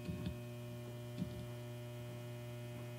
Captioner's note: footsteps